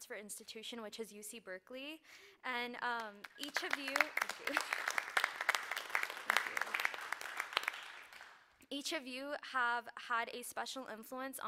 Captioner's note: applause